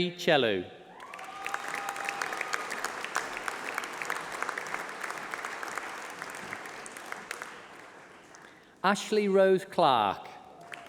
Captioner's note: applause